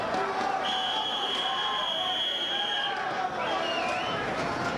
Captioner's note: whistling